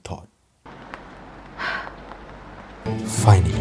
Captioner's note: sighs